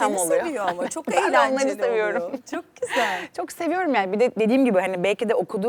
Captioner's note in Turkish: kahkaha